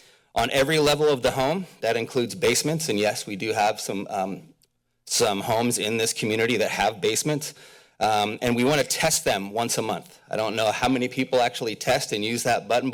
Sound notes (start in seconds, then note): none